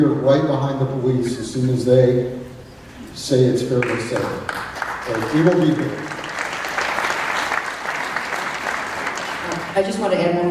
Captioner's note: clapping